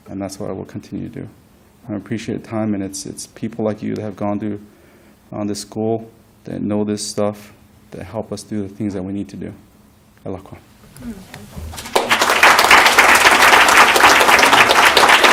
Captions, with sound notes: And that's what I will continue to do. I appreciate your time, and it's people like you that have gone to-- on this school, that know this stuff, that help us do things that we need to do. [NON ENGLISH SPEECH] [APPLAUSE]